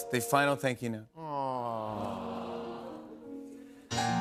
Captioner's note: audience awws